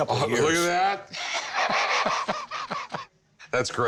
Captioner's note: laughing